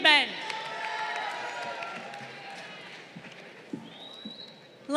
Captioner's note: crowd applauding